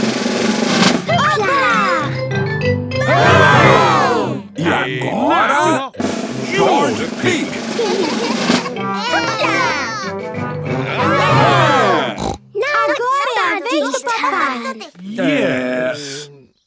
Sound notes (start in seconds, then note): 6.0 drumroll; 12.0 snort